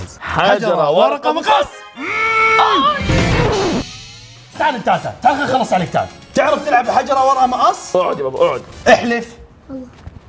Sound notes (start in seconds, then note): 1.9 groans; 2.0 shouts